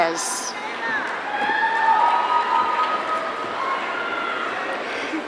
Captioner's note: audience cheering